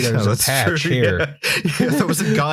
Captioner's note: laughter